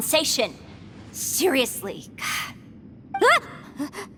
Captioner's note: sigh